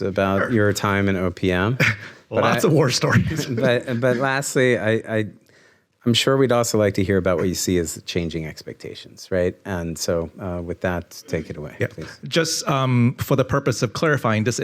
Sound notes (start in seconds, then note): 3.0 chuckles